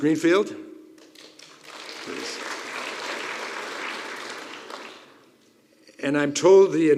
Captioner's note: applause